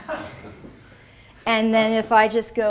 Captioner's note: laughs